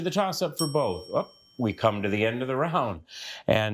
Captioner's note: bell dings